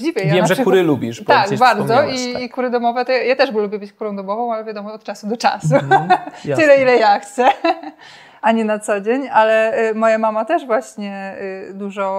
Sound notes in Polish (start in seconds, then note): 5.6 śmiech